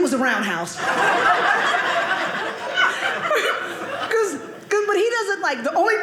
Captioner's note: audience laughing